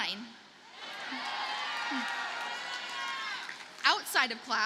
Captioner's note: audience cheers and applauds